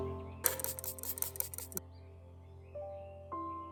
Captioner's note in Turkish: fıs fıs fıs püstkürtme sesi